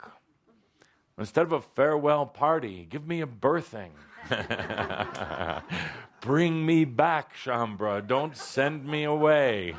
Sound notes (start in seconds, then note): 4.0 laughter